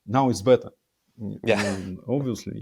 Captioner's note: laughing